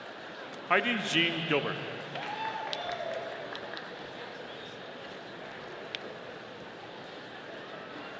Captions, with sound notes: Heidi Jeanne Gilbert. (audience cheering)